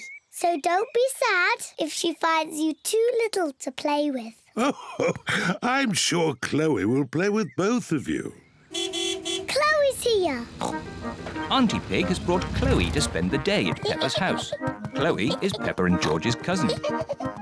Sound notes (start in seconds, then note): 4.6 laughs; 8.7 car horn honks; 10.5 oinks